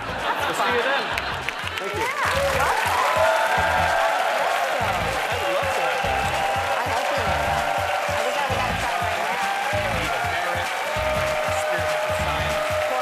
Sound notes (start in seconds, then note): 5.1 audience cheers and applause